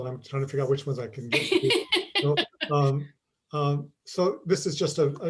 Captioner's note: laughs